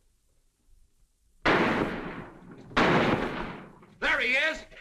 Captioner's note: gunshots